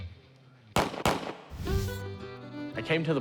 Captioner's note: gunfire